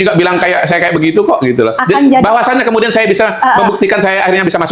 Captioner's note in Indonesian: tertawa